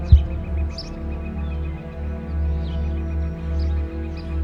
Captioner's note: birds chirping; dramatic music